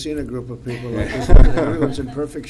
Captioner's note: laughter